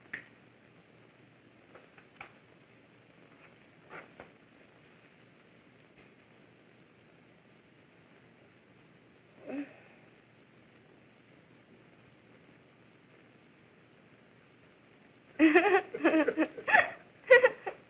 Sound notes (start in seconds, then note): 9.5 moans; 15.4 giggling